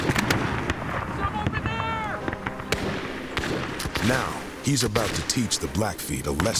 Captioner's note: gunshots